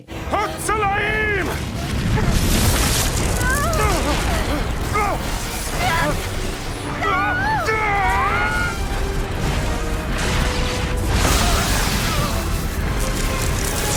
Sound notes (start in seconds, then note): 0.2 Indy speaking in foreign language; 7.0 Gina screaming; 10.9 dramatic music